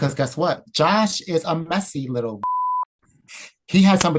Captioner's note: beep